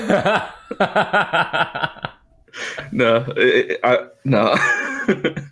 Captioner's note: laughter